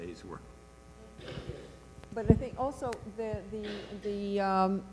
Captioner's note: voiceover